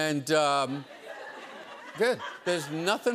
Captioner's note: laughter